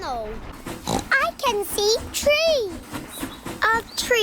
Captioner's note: oinks